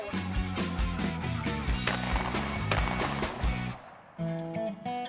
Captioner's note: gun banging